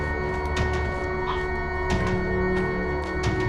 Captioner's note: Andrew chokes